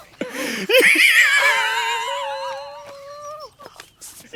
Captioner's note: wheezing